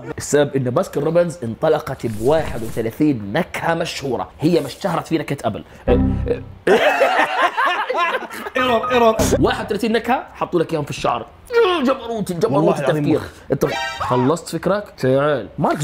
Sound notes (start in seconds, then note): 6.6 all laughing